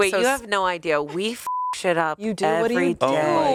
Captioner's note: beep